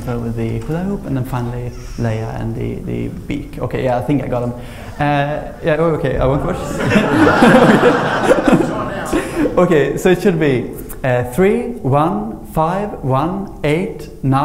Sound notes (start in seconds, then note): 6.2 AUDIENCE: Laughter